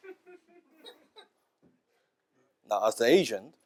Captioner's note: laughter